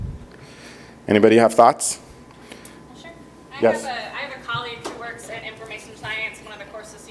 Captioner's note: speaking off microphone